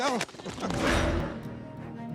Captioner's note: applauding; dramatic music